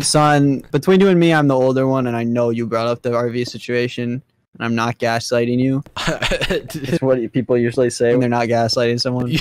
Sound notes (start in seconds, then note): 6.0 chuckles